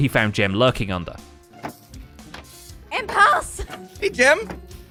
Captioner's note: trapdoor clacks